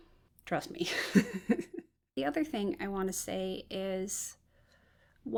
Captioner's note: laughs